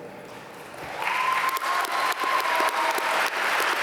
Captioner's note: applause